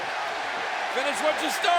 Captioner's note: audience cheers